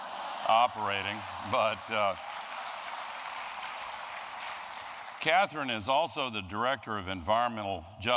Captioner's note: applause